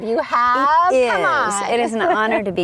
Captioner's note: laughs